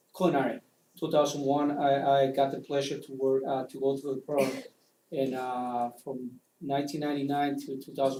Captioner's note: cough